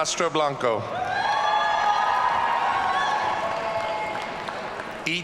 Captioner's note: audience cheering